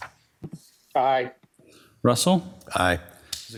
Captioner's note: pat